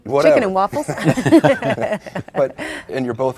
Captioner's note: laughing